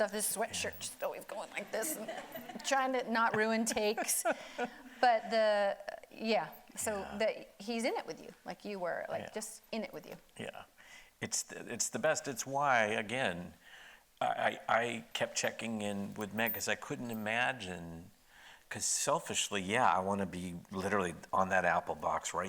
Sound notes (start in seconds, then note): 1.6 audience laughing; 3.3 laughing